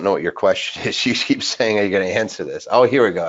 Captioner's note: chuckles